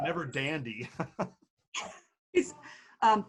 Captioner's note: laughing loudly